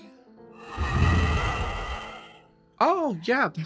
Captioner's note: dragon roars